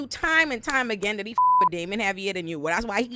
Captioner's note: beep